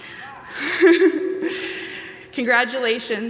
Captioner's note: laughing